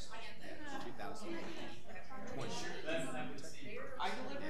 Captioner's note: people chattering